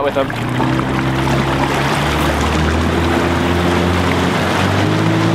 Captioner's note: boat engine revving